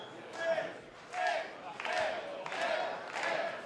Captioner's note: fans chanting